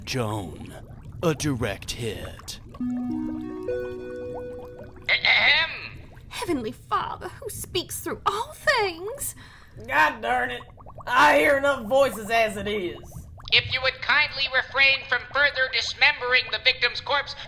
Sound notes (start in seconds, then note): 2.5 intercom chimes